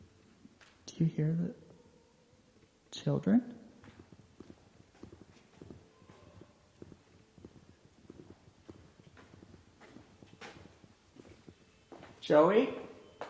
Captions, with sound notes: Do you hear the children? (footsteps scuffing) Joey?